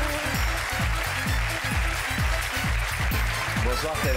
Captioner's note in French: applaudissements